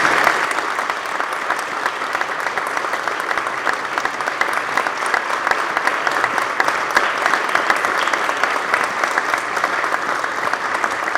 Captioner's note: applause